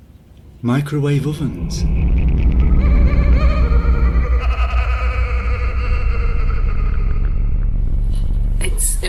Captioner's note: manic laughter